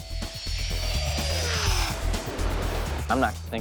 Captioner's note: jet engine roars